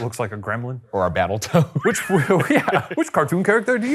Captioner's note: laughs